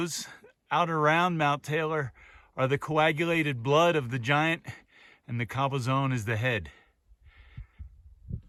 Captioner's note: soft climbing sounds